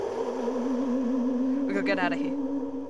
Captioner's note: ghost noises